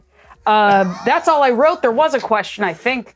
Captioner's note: others laughing